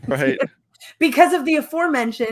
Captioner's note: laughs